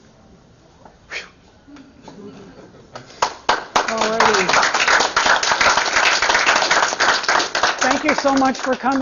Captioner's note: applause